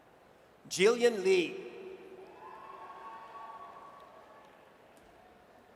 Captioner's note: audience cheers